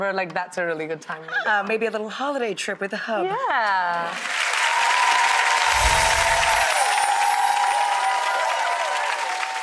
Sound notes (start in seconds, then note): 3.6 clapping and cheering; 5.6 chimes ring